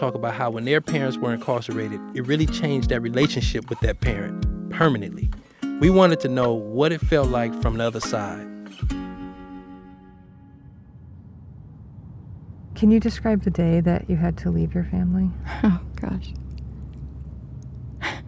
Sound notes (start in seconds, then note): 12.6 ambient noise from inside moving car; 12.6 music fades out